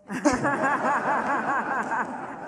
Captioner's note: laughter